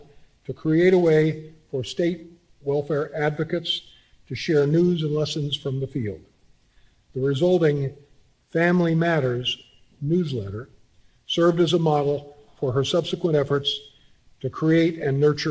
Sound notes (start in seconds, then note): none